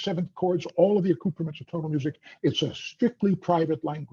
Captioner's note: audio breaks up slightly